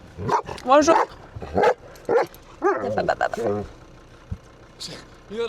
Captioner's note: speaking in foreign language